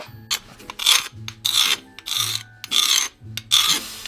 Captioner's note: scraping